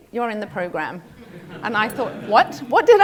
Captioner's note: laugh